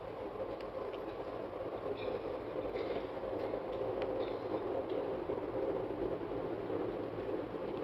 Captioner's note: sound of train